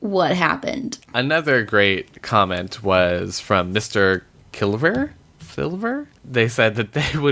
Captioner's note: struggles with pronunciation